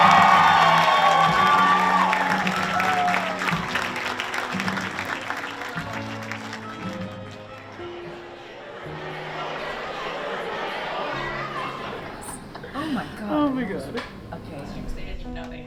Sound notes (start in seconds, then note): 0.0 applause; 7.3 crowd noise